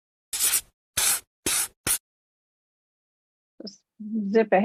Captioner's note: pencil scratching